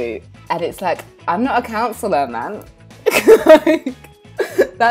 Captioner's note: laughing